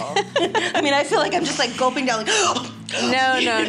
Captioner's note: laughs; gasp